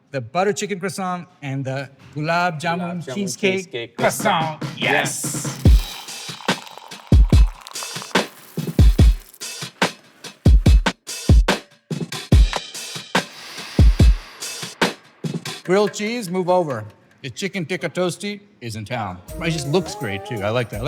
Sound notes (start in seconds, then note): 6.3 chill music; 13.5 inhales aroma